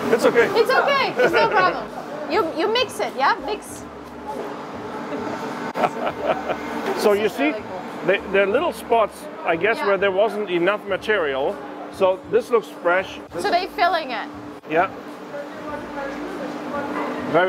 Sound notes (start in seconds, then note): 0.6 laughs; 4.0 machinery humming; 5.7 laughing